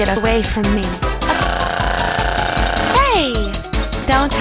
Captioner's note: screams